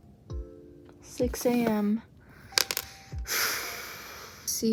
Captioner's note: exhale